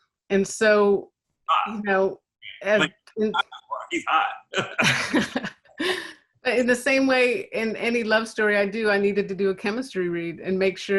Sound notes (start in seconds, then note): 3.3 laughing